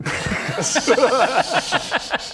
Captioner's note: laughs